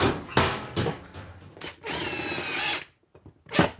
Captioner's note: drill whirring